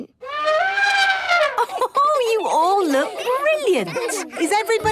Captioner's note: trumpeting; Mummy Pig laughing